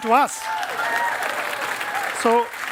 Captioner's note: cheering and applause